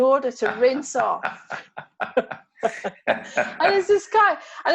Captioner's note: both laugh